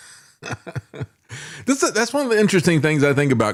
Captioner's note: laughing